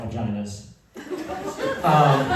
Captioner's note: laughter